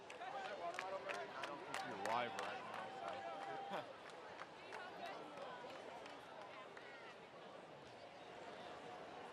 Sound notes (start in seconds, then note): 0.0 clapping